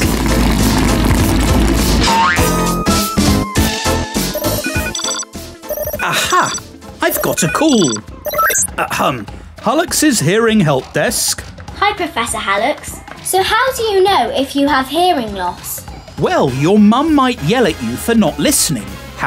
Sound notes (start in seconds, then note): 4.3 phone ringing